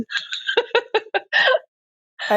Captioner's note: laughs